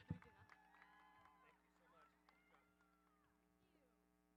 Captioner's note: audience applauding